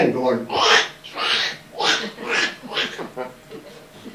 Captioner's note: makes scraping noises